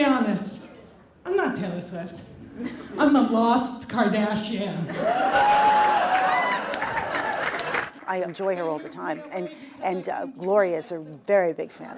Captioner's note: applause